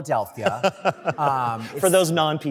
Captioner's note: laughter